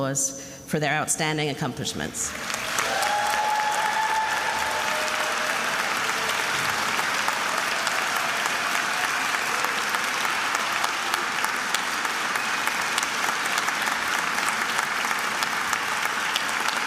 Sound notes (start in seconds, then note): 2.6 attendees applauding and cheering